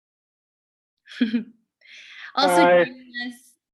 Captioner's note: giggling